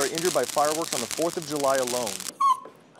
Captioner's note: dogs in a kennel whining